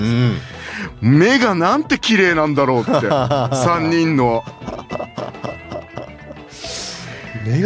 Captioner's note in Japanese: 笑い